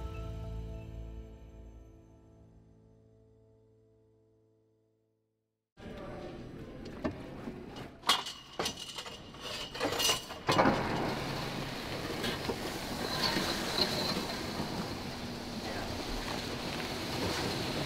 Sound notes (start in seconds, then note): 8.0 hockey net clanking; 12.2 hockey net sliding across ice